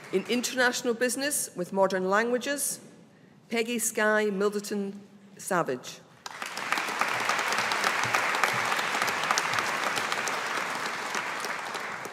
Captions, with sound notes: In International Business with Modern Languages, Peigidh Skye Middleton Savage. (AUDIENCE APPLAUDING)